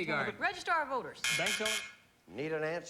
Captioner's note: buzz buzz buzz